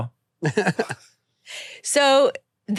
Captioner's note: laughs